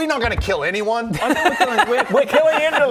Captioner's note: laughter